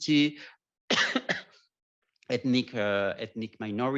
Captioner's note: coughs